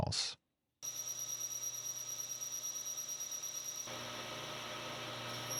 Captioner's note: machine whirring